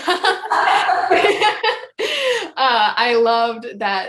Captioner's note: laughs